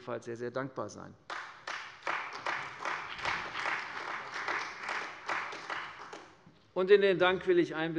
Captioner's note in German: Beifall bei der CDU und dem BÜNDNIS 90/DIE GRÜNEN